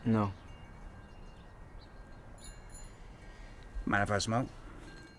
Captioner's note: gentle chiming